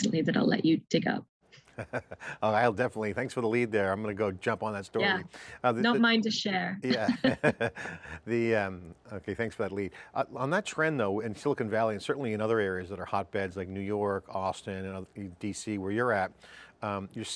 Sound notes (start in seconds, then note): 1.6 laughs; 6.8 both laughing